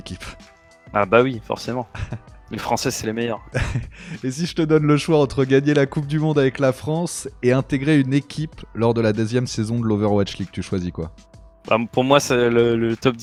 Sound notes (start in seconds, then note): 3.5 laughs